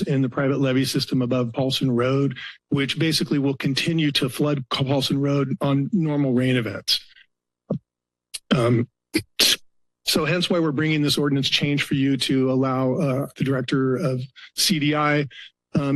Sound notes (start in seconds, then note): 8.3 pause